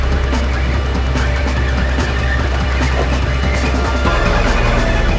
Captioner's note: ominous instrumental music continues; vehicle screeching; water trickling